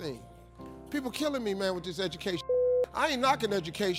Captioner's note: beep